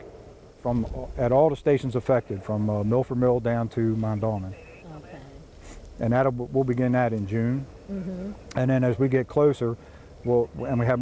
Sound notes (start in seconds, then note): none